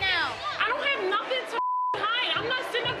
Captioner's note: beep